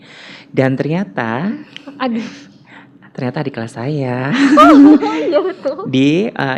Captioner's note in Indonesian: laugh